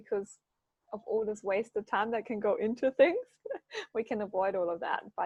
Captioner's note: laughs